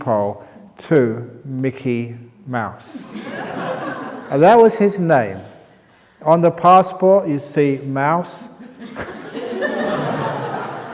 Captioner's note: laughter